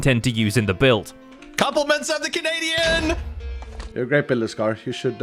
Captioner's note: explosion